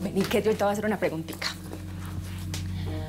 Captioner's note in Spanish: none